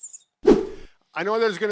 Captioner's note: air whooshing